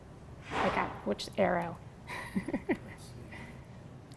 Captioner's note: laugh